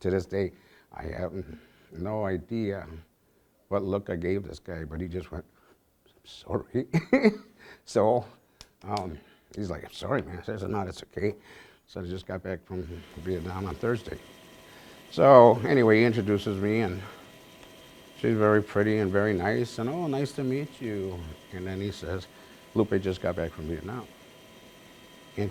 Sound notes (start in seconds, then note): 6.8 chuckles